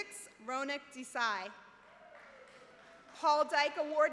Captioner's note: applause